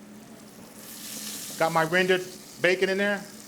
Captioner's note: okra sizzles